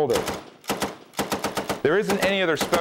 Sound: gun firing

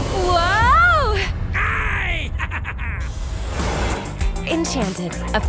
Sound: evil laughter

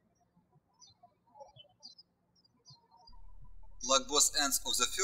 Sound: birds chirping

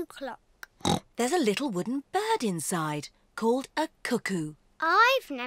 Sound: oinks

